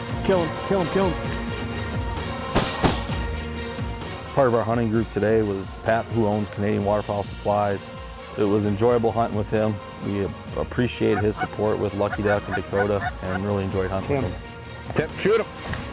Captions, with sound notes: >>KILL 'EM (GUN SHOTS) >>PART OF OUR HUNTING GROUP TODAY WAS PAT WHO OWNS CANADIAN WATERFOWL SUPPLIES IT WAS ENJOYABLE HUNTING WITH HIM. WE APPRECIATE HIS SUPPORT WITH LUCKY DUCK AND DAKOTA WE REALLY ENJOYED HUNTING WITH HIM. >>TIM, SHOOT 'EM.